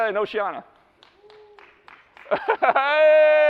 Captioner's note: claps; laughs